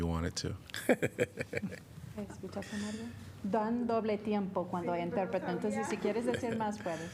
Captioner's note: laughter